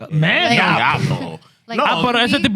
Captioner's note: speaking Spanish